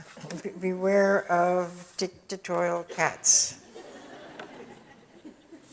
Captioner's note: audience chuckles